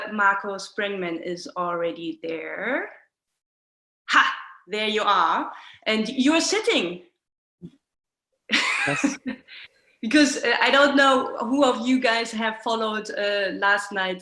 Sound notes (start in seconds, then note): 8.6 laughs